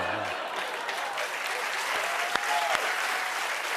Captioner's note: cheers and applause